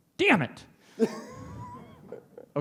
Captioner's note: laughs